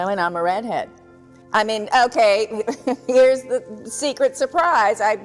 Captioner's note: chuckles